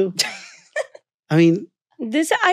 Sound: laughing

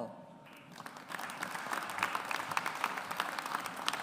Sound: audience applauds

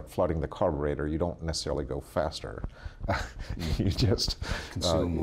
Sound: laughs

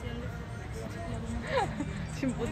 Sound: laughs

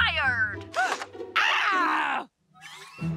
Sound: screaming

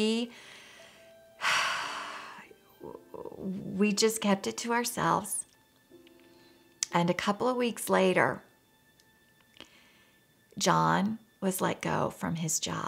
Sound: sigh

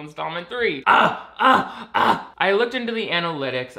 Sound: screams

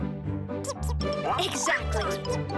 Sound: chirps

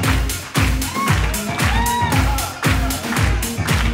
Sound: audience cheers

